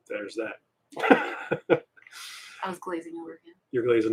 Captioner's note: laughing